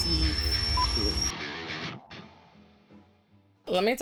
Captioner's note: beep